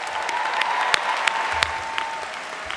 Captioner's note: applause